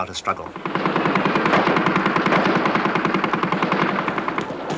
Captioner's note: guns firing